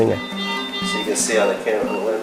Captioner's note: beeping